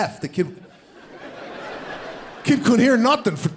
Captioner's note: audience laughs